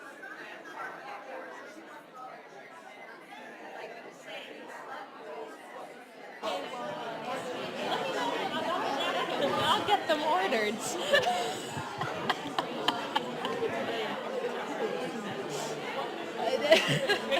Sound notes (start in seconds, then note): 10.7 laughs